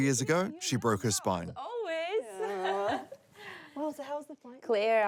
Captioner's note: chuckles